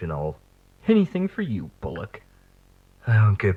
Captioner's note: facetiously; under his breath